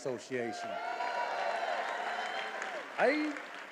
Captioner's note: attendees applauding and cheering